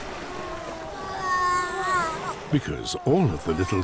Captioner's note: seal moans